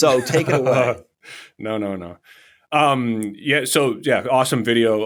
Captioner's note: laughs